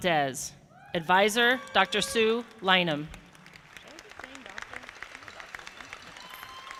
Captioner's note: audience applauding